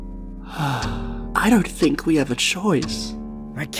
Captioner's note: sighs